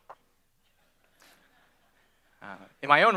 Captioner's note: scattered laughter